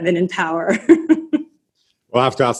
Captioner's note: laughs